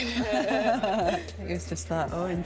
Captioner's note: laughter